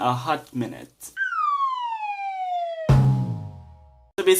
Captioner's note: slide whistle + drum sound effect